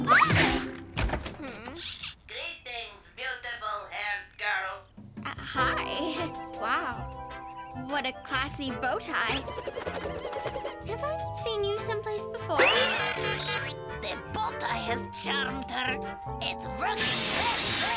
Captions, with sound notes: - Hmm... - Greetings, beautiful haired girl! - Uh, hi. (playful music) Wow, what a classy bow tie. (bow tie whooshing and squeaking) Have I seen you someplace before? (bow tie whizzing) (alarm blaring) - The bow tie has charmed her! It's working very, very well.